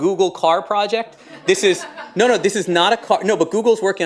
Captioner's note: laughter